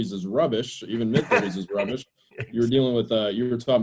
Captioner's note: laughs